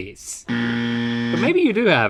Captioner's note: buzzer blaring